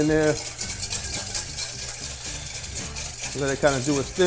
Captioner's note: whisk scraping